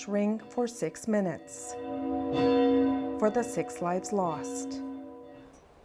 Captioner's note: bells tolling